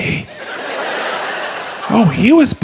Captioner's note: audience laughs